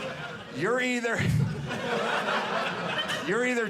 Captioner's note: audience laughing